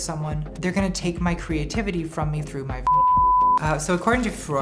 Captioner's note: beep